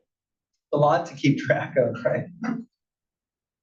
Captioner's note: laugh